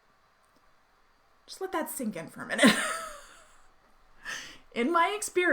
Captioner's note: laughs